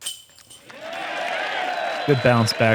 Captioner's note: cheering